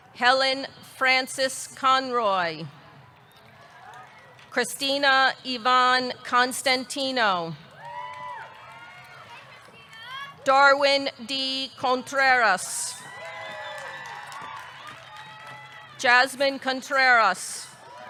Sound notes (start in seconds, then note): 7.7 audience clapping; 7.7 audience cheering; 13.0 audience cheering; 13.1 audience clapping